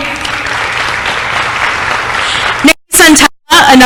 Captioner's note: applause